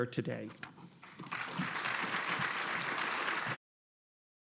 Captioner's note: applause